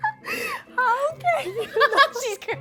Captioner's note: laughs